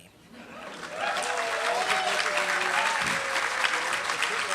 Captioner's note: applause